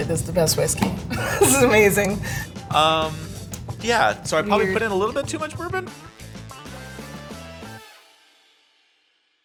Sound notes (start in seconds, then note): 1.1 laughs; 6.7 upbeat music